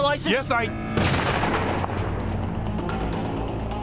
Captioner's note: gunshot